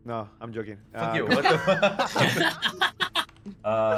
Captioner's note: laughing